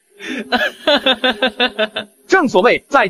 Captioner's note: laughter